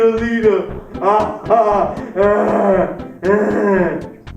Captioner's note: intense moaning